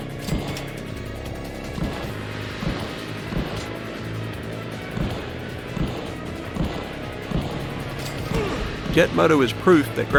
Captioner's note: game music; game sounds